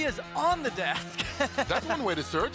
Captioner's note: laughs